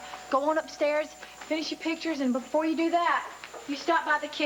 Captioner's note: doorbell rings